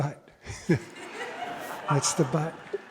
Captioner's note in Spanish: Risas